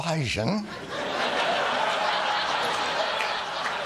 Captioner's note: laughter